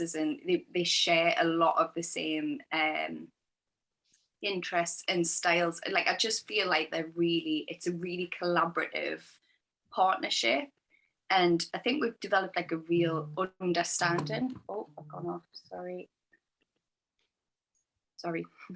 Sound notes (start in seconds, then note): 13.9 phone vibrates